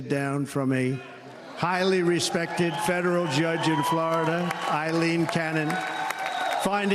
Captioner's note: applause